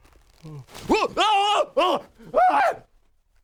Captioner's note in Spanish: bostezo